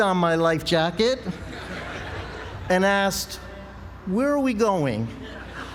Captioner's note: laugh; laugh